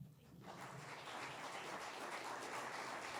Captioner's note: applause